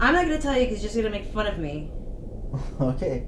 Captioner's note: Kim clears throat